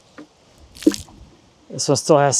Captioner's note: water splashing